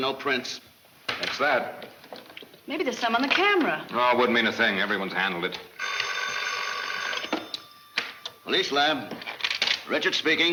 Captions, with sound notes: - That's that. - Maybe there's some on the camera. - Aww, it wouldn't mean a thing. Everyone's handled it. (phone ringing) - Police lab. Richard speaking.